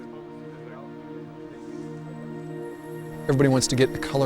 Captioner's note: background voices